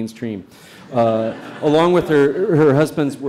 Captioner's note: audience laughs